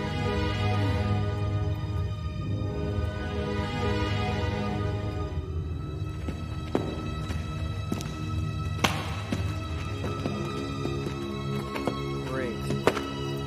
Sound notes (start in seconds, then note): 0.3 mysterious music; 5.9 footsteps